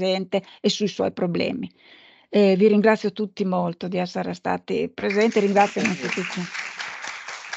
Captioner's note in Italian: Applauso